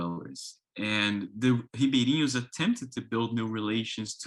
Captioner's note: speaks in foreign language